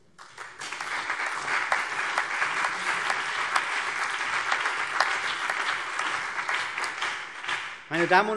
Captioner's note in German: Beifall CDU und BÜNDNIS 90/DIE GRÜNEN